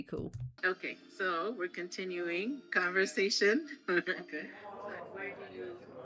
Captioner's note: laughing